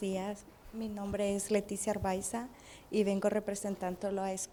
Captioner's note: in a foreign language